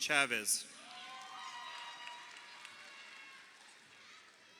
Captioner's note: crowd cheering